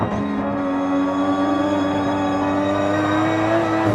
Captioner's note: engine roars